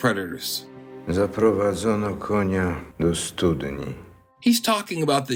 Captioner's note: in Polish